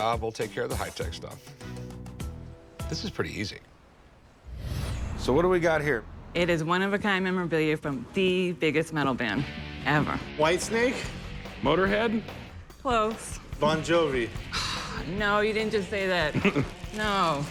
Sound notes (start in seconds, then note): 14.4 sighs